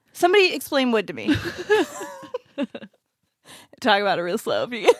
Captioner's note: laughs